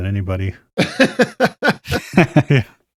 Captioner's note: laughter